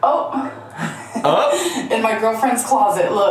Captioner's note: chuckles